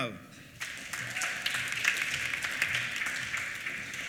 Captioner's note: applause